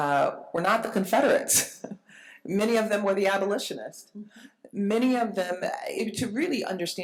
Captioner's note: chuckles